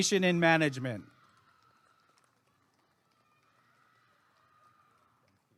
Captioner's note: applause and cheering